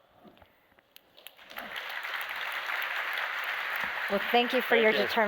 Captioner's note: applause